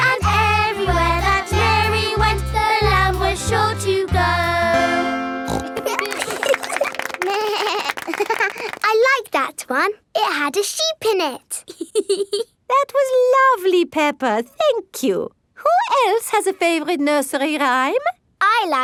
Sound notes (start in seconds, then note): 5.4 snorts; 5.5 laughing; 7.3 bleats and laughs; 11.6 laughs